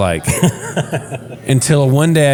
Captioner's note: laugh